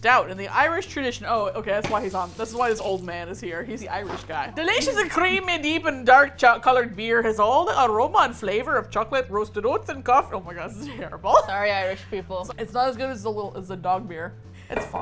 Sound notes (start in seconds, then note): 4.3 attempted with Irish accent; 11.2 laughs